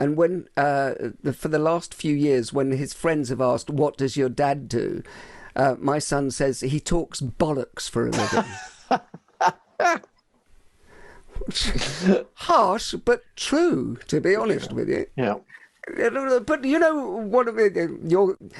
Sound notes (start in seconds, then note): 8.1 laughing